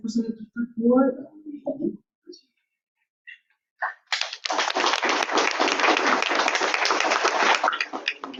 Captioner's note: clapping